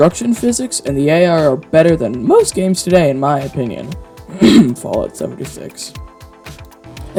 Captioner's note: cough